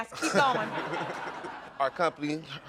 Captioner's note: audience laughing